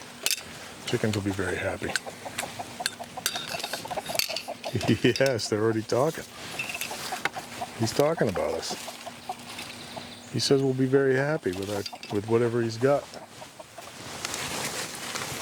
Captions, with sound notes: the chickens will be very happy (excited chicken chatter) Yes, they are already talking "He's talking about us" "He says we'll be happy with... ...what he's got!"